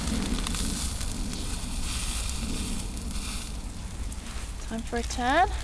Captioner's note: sizzle